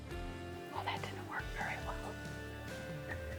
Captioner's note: whispering